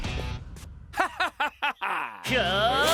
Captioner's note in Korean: 사악한 웃음소리; 놀라는 소리; 기합 소리